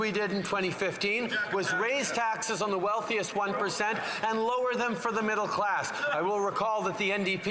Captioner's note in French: voix de l'interprète